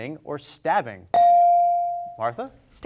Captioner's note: bell rings